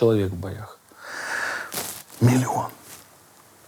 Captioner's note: inhales deeply